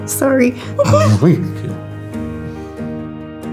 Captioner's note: both laugh; upbeat music